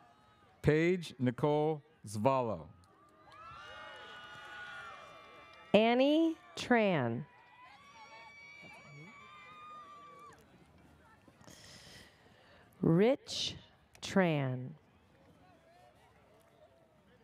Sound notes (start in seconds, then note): 3.2 audience cheers